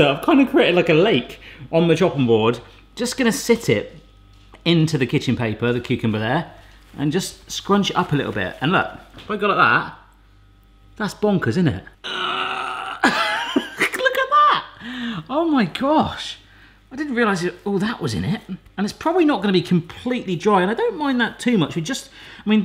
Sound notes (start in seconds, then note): 12.0 grunts; 12.8 laughs